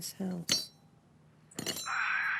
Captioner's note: metal clanking; sighs